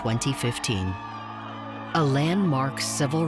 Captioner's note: cheering